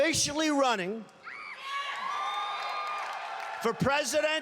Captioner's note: cheers and applause